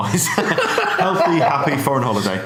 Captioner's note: laughs